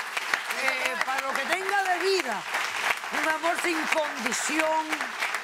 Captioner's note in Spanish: aplausos